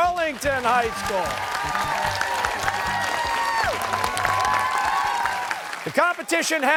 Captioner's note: cheers and applause